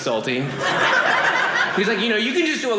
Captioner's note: audience laughing